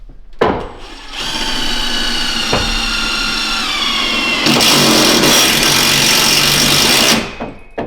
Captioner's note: motor Whirring